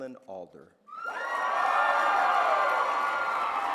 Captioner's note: applause